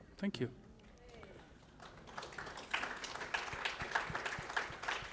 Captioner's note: applause